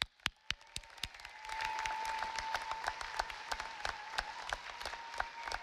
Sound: audience applauding

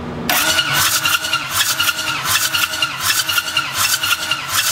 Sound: engine cranking

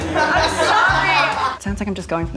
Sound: people laughing

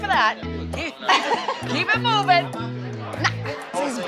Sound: laughing

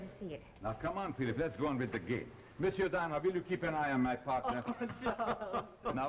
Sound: laughter

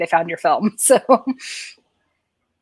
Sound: laughs

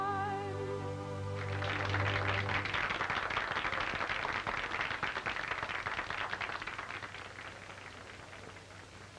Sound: applause

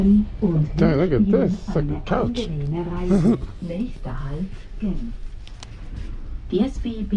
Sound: laughs; train announcement

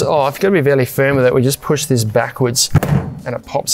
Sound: lid thuds

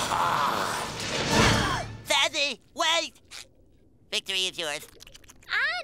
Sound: gasping

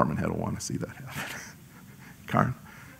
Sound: laugh

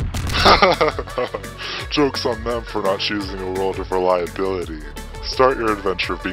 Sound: laughing

